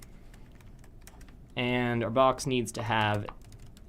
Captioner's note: typing Noises